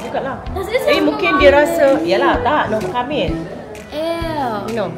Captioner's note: speaking German